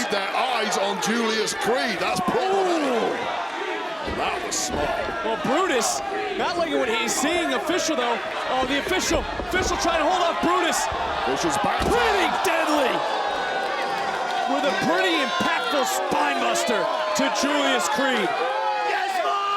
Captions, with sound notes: their eyes on Julius Creed. That's- Oh! That was smart. Well, Brutus, not liking what he's seeing. The official though, the official trying to hold up Brutus. Here's a- Pretty Deadly- (audience cheering) With a pretty impactful spine buster to Julius Creed. Let's go!